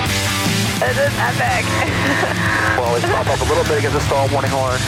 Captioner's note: laughing